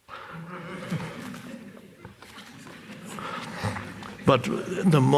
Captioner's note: audience chuckles